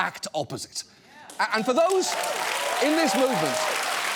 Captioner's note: audience cheers, applauds